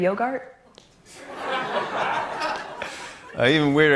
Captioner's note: laughter